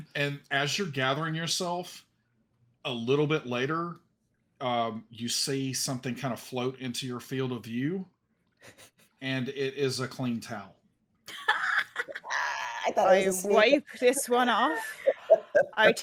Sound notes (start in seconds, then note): 11.3 laughs